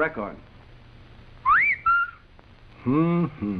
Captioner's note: whistling